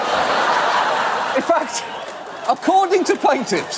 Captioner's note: audience laugh